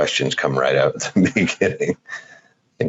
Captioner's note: laughing